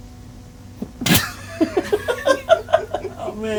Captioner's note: man laughing